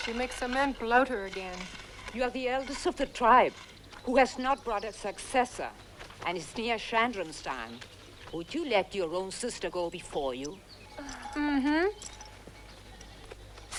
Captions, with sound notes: she makes the men bloat her again. - You are the eldest of the tribe who has not brought a successor. I see you're shandrom's scion. Would you let your own sister go before you? - (Giggles) Uh-huh.